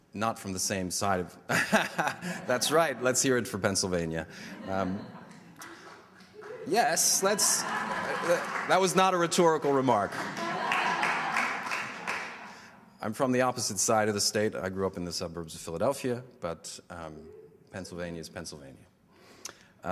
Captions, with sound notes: Not from the same side. That's right. Let's here it for Pennsylvania. (light applause) Yes. Let's. (audience laughter) That was not a rhetorical remark. (applause) I'm from the opposite side of the state. I grew up in the suburbs of Philadelphia, but Pennsylvania's Pennyslvania.